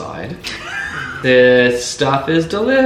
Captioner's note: laughing